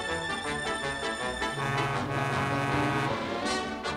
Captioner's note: horn honks